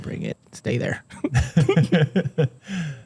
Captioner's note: laughter